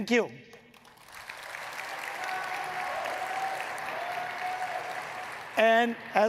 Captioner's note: audience cheering and clapping